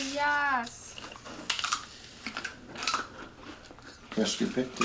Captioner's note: crunching